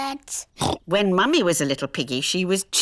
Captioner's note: oinks